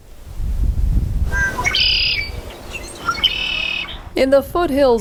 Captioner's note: birds chirping